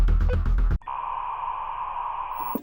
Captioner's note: static